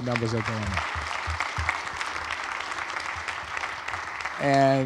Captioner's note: audience applauds